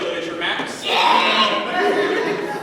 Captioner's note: retches